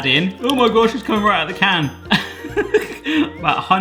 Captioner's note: laughing